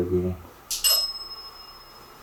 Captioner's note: bell ON